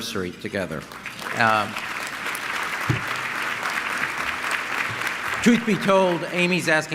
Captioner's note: applause